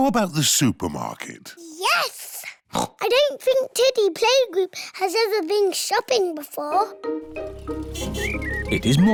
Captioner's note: oinks